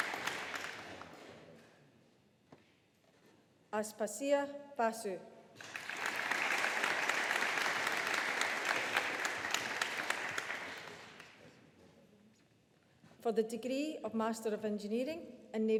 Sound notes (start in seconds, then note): 5.6 audience applauding